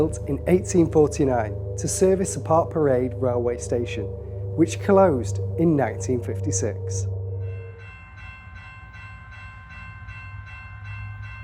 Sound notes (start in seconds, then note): 7.9 train bell rings